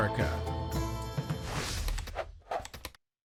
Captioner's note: keyboard clacking, mouse clicking